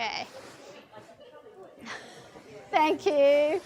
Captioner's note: group chattering